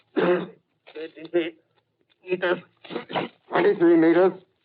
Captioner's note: coughs; coughs